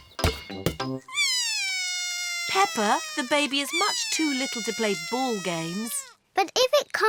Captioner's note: bawls